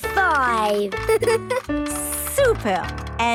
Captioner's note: giggles